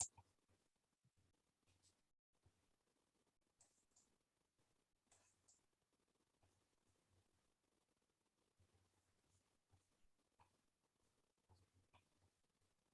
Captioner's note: mouse clicking